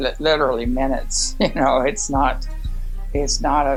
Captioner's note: chuckles